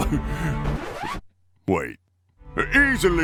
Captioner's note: chuckle; record scratch